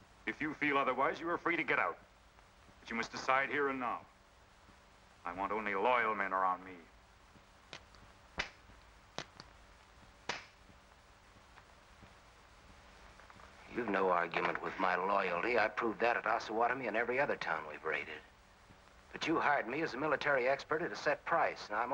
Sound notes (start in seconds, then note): 7.7 guns clicking